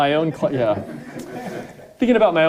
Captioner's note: audience laughing